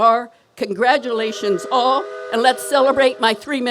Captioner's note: horn blares